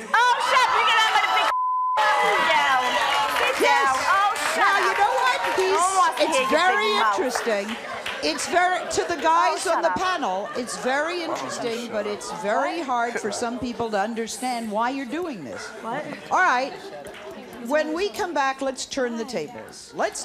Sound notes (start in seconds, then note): 1.4 beep; 3.4 audience cheering